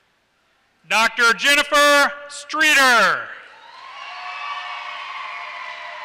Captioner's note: applause